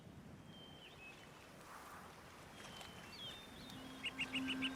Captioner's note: birds singing